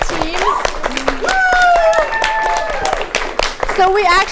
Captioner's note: crowd cheering